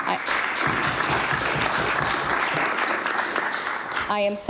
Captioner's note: applause